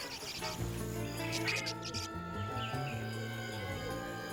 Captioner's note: elephant trumpeting; chirping